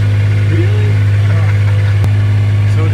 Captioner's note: laughing